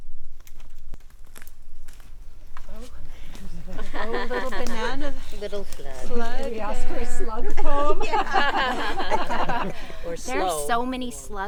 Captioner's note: leaves crunching; group laughing; laughing; group laughter